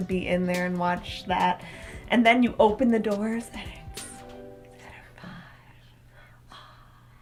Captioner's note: whispers